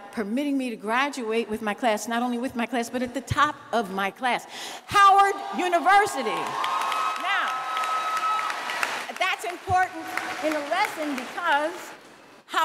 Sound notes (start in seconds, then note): 9.1 cheers and applause